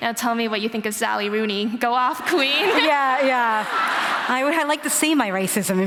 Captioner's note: laughter